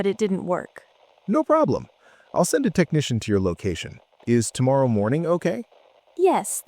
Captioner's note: tech support voice